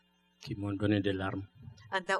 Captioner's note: speaking french